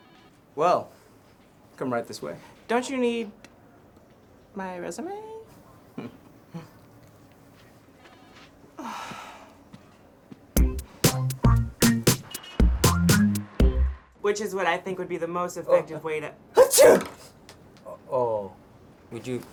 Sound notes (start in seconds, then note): 5.5 chuckles; 16.5 sneeze